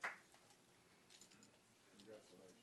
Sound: applause

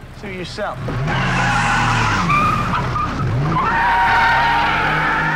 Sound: tires squealing

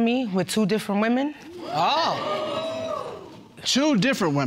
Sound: audience exclaiming

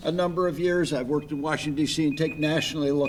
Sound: timer beeping

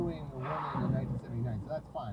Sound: tires lock

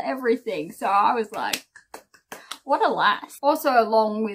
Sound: round of applause

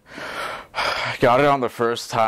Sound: breathing

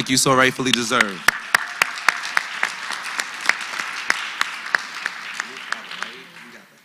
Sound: applause

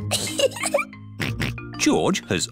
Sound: giggles; snorts

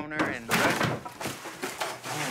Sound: clattering

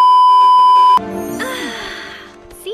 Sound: sighs, refreshed

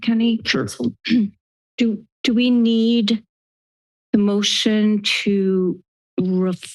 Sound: clears throat

